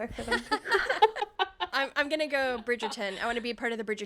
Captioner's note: laughing